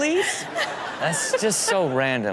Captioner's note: crowd laughs